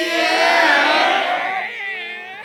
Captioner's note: cheering